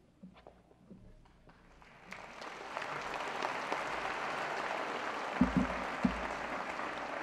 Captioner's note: applause